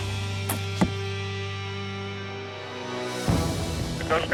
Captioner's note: thumping